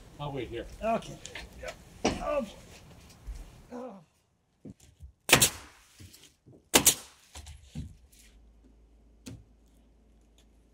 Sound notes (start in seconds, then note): 6.6 nail gun bangs